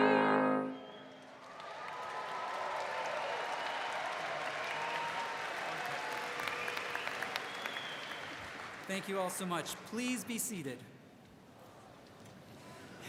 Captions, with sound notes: (audience cheers) Thank you all so much. Please be seated.